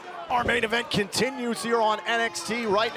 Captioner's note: crowd cheering